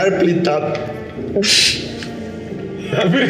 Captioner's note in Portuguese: risadas